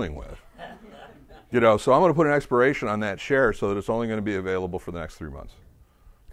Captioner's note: laughter